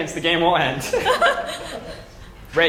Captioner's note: laugh